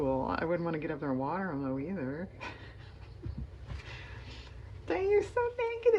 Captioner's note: laughs